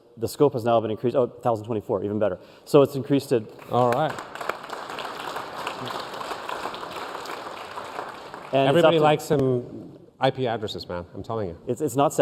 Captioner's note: applause